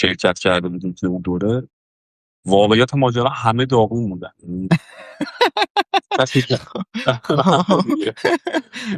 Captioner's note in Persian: خنده